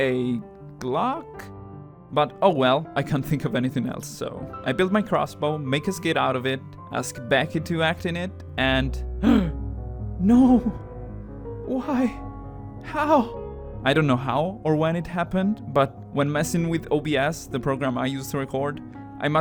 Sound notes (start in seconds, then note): 9.2 gasp